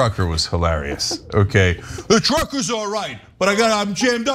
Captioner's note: laugh